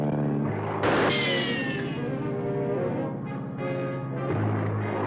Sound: plane roaring overhead; rifle fires; suspenseful music

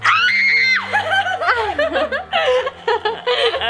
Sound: screaming; laughing

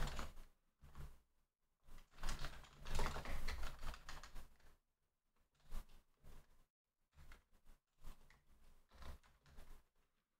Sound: typing

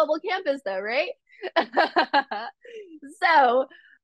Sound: laughs

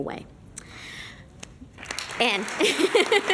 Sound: applause

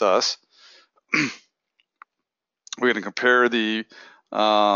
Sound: cough

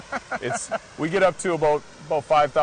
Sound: laughing

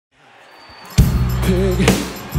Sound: audience cheers

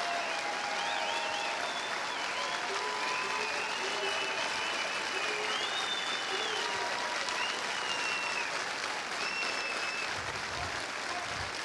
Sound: cheers and applause

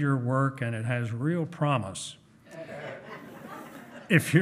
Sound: hearty laughing

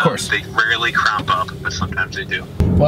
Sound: voiceover

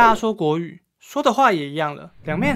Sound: Mandarin

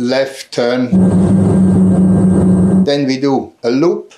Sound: plane engine rumbling

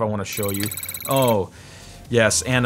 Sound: computer beeps

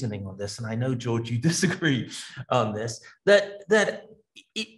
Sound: laughs

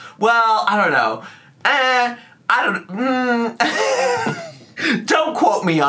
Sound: laughs

